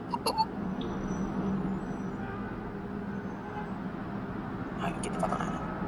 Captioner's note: distant car honks